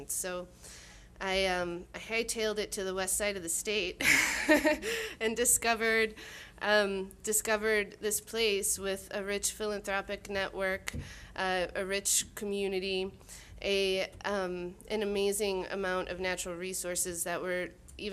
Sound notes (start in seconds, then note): 4.1 laughing